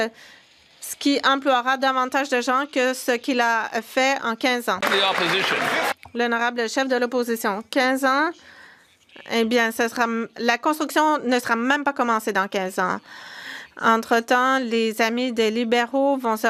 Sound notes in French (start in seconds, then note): 11.7 voix de l'interprète